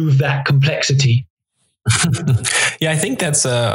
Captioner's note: laughs